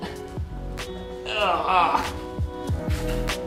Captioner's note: playful grunts of pain